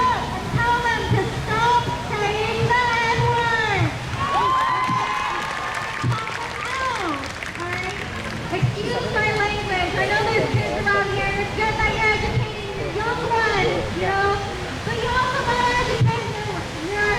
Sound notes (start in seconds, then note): 4.1 crowd cheers